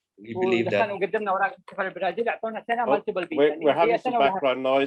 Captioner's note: non-english speech